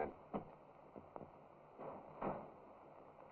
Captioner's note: wooden thud